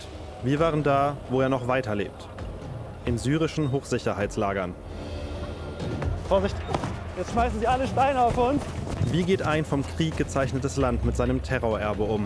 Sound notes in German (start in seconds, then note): 4.6 Düstere Klänge; 6.6 Dumpfer Laut